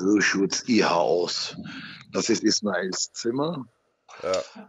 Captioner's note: laughs